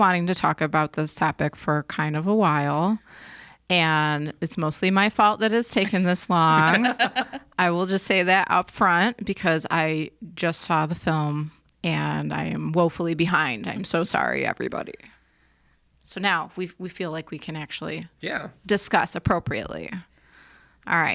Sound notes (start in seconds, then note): 6.5 all laughing